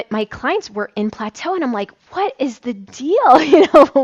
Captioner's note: laughs